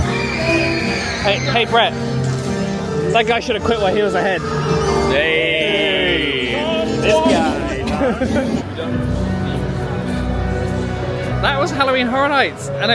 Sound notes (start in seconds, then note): 0.0 guests screaming; 7.0 laughing; 8.8 instrumental music